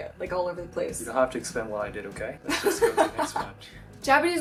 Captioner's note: laughs